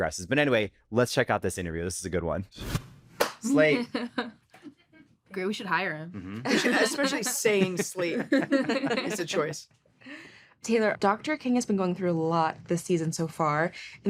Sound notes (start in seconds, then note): 3.2 claps; 3.6 chuckles